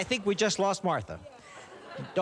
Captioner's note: laughter